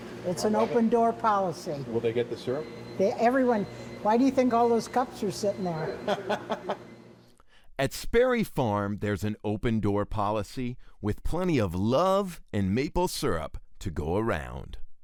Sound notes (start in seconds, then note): 6.1 chuckles